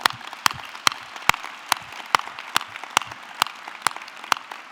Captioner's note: audience clapping